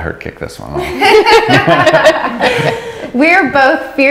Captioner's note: laughing